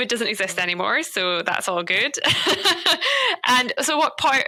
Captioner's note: laughs